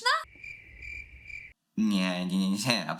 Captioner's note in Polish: cykanie owadów